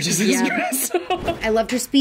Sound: laughs

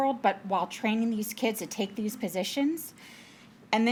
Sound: none

